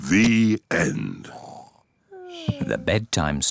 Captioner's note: both snore